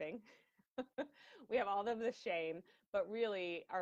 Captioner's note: laughing